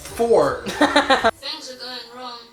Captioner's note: laughs